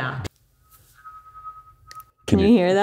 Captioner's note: hearing aid feedback